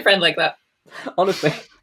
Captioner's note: lauging